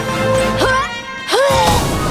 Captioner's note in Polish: krzyczy